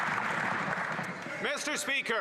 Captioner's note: some Applause